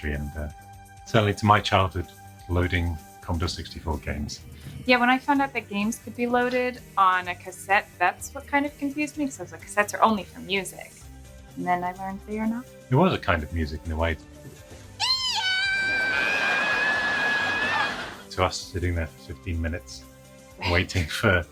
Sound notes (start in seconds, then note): 15.0 screaming; 16.1 laughter